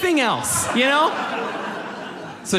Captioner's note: audience laughs